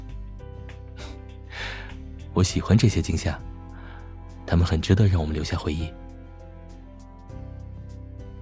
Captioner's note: chuckles